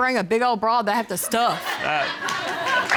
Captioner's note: audience laughing